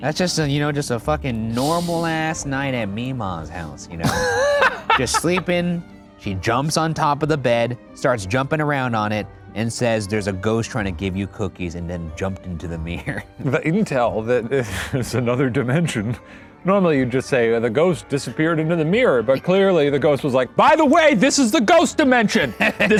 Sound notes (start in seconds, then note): 4.0 laughing